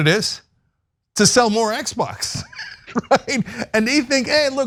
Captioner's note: laugh